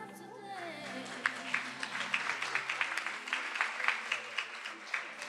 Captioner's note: attendees applauding